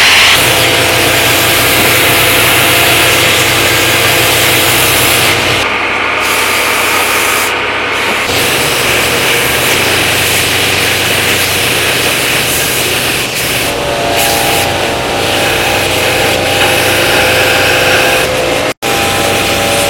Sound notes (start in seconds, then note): 6.2 drill press whhhrrrr; 8.4 grinder Noise